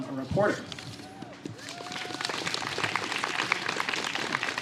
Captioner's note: applause